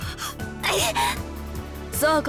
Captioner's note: panicked gasp